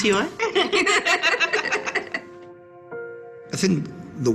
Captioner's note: laughing